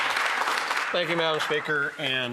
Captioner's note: applause